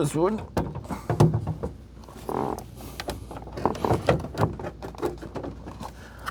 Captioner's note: footsteps